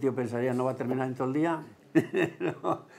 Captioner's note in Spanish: ríe